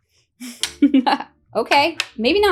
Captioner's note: laughing